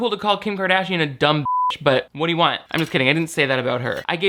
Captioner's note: beep